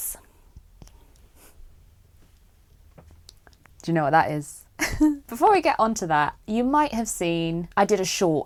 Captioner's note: laughs